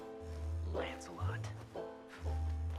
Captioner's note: scuffs